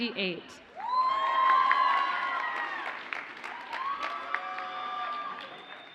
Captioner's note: audience cheers and applauds